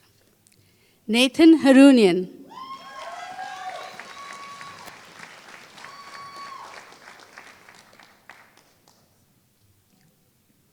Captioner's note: applause